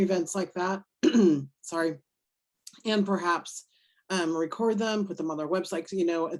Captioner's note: coughs